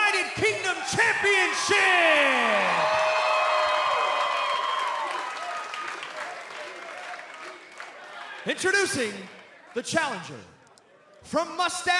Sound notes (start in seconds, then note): 0.7 cheers and applause